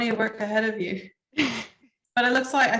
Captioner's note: laughs